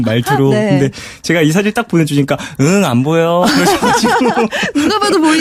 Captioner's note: laughs